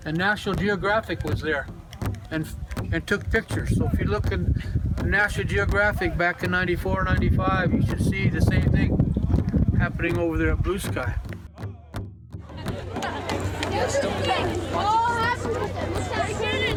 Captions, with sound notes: And National Geographic was there and took pictures. So if you look in National Geographic back in '94, '95, you should see the same thing happening over there at Blue Sky. (people chattering)